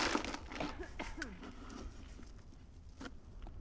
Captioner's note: woman coughing